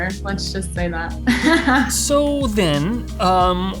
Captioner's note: laughing